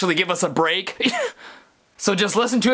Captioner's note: sneeze